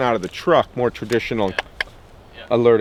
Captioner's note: mimics knocks